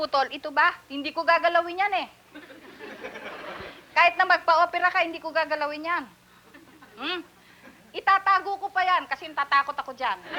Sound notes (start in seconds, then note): 0.0 speaking Filipino; 2.3 laughter